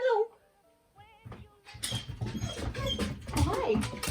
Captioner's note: dog whining